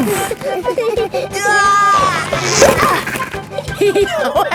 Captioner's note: giggling; grunting; giggling; laughing